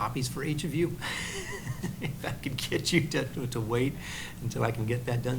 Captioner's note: laughs